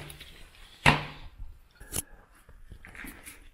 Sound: door opens; metal clanking

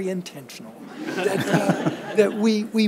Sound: audience laughs

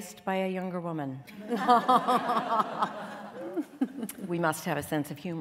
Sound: laughter

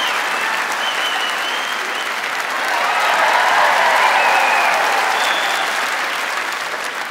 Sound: louder cheers and applause

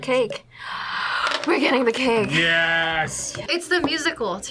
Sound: gasps

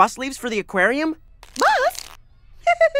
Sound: giggles

